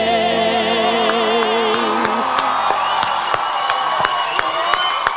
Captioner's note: audience applauds